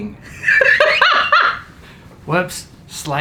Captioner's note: laughs